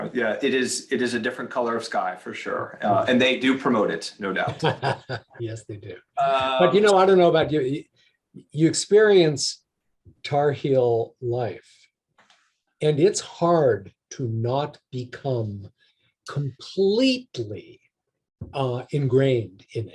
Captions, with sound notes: - Yeah it is a different color of sky, for sure. And they do promote it, no doubt. - (laughs) Yes, they do. But you know, I don't know about you, you experience Tar Heel life and it's hard to not become completely ingrained in it.